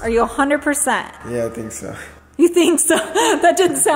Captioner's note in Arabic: يضحك